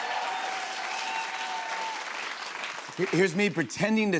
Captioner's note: cheers and applause